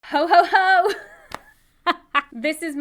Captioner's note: laughs